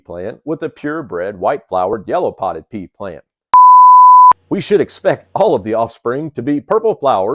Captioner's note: beep